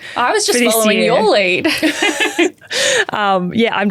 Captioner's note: both laughing